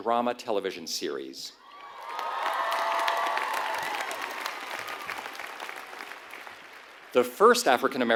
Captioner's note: applause